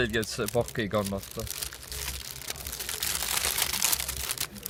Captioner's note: crunches with the package